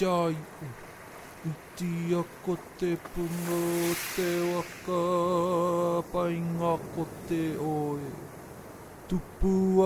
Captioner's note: lapping waves on stones; speaking karakia in Māori